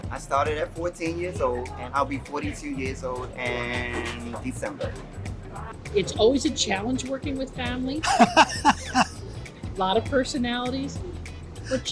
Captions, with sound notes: - I started at 14 years old, and I'll be 42 years old in December. - It's always a challenge working with family. (laughs) A lot of personalities,